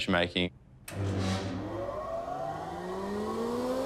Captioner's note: machinery whirrs